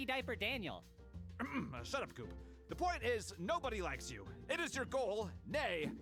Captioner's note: покашливание